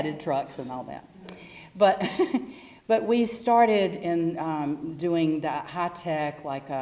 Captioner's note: laugh